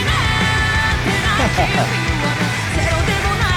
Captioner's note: laughs